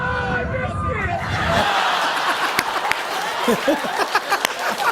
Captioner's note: laughter